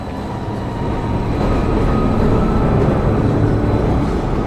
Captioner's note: train squealing